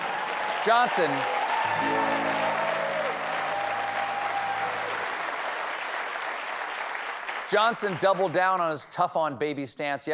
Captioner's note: cheers and applause